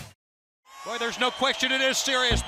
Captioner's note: crowd cheering